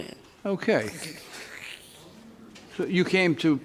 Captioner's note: woman laughs